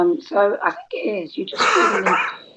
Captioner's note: cough